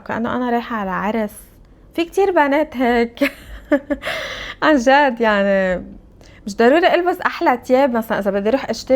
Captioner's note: laughs